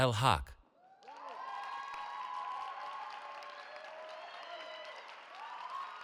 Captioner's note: cheering